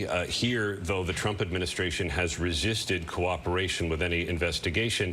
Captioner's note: none